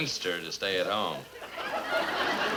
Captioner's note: audience laughs